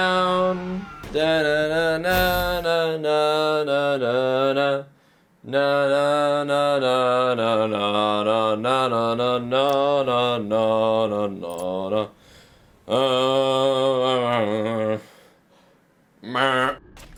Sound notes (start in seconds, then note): 1.2 humming